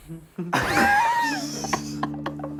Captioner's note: laughing